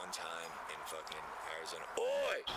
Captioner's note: birds chirping